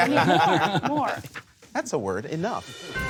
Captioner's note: laughter